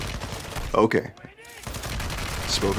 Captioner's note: guns firing on video game; yelling on video game